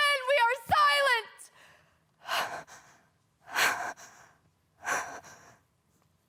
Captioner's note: heavy breaths; soft breathing